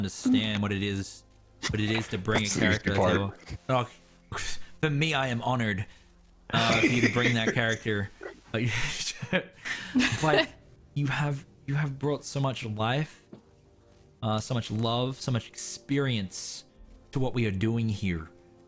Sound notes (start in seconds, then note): 8.2 giggles